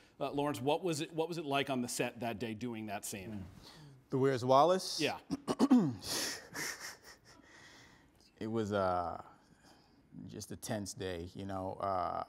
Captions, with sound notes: Lawrence, what was it like on the set that day, doing that scene? -The "Where's Wallace?" (CLEARS THROAT) -Yeah. (CHUCKLING) It was just a tense day, you know?